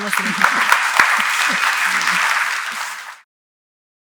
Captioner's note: applause